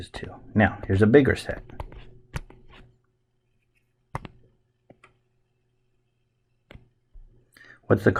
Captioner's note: writing Sounds